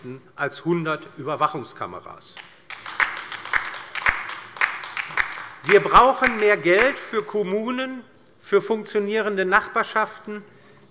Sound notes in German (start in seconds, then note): 2.4 Beifall bei der LINKEN